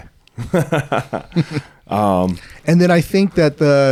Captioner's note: laughing